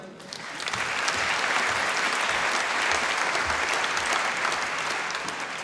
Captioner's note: applause